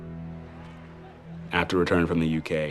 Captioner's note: people chattering